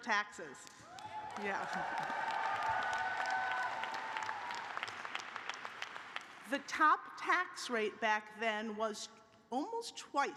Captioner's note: cheers and applause